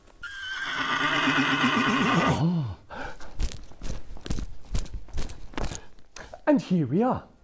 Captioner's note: neighing